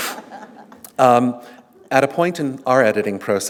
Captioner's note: laughter